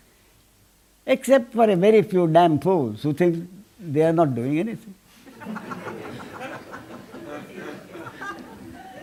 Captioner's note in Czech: smích